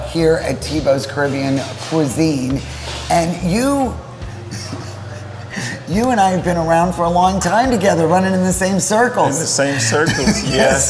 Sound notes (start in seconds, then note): 4.4 chuckling